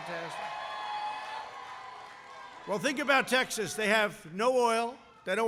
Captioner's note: applause